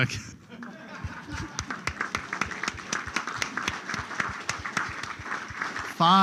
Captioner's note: applause